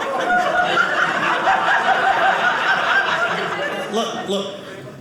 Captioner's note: audience laughing